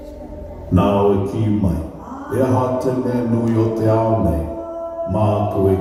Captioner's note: presenter speaking Maori